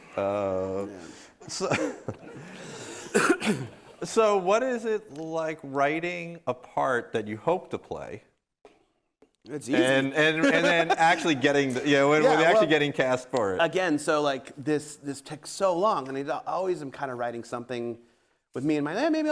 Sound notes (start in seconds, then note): 2.0 audience laughing